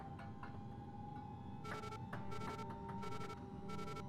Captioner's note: device beeping